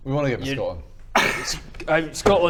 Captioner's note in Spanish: risa cínica